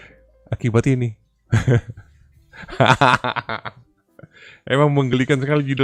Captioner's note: laughs